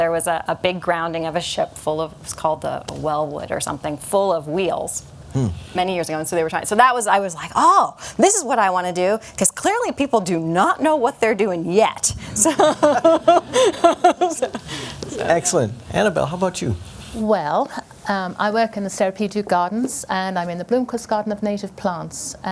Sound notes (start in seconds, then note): 12.2 laughter